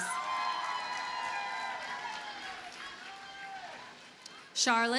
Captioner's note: audience cheers and applauds